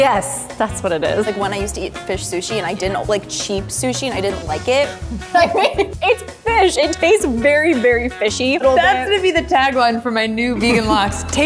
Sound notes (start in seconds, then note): 5.1 laughs